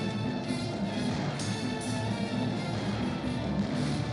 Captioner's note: car backfires